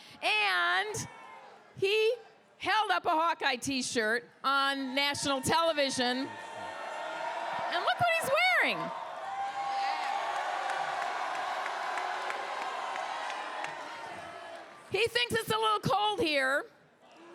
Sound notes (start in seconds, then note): 6.5 crowd cheers; 10.5 crowd cheers